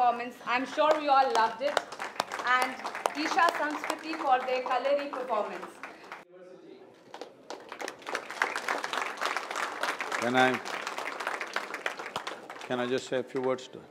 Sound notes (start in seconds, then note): 11.5 applause